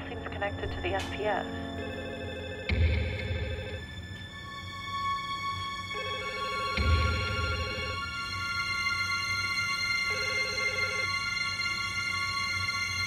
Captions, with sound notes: I don't know, it just all seems connected to the FPF. (phone rings) (dramatic music)